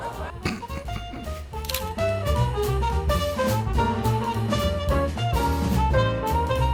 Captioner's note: chuckles; camera clicking